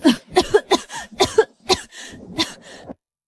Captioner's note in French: tousse